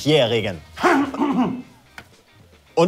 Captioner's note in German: Räuspern